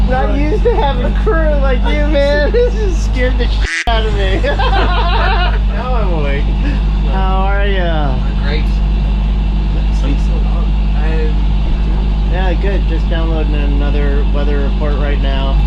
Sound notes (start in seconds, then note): 5.0 laughter